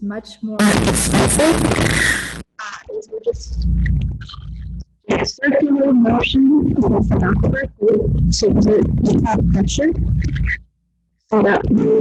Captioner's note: static noise